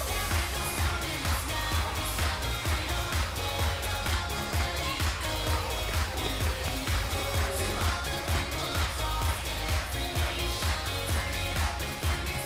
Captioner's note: crowd cheering